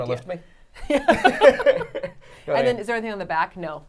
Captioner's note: all laughing